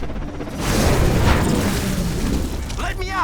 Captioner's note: magical buzzing